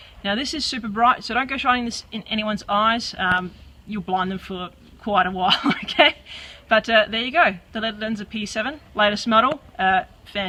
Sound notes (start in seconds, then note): 5.5 laughs